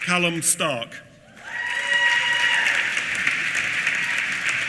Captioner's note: applause